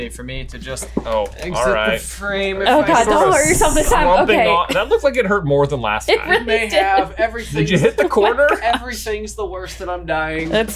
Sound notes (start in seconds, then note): 6.1 laughing